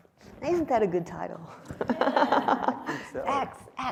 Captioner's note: laughs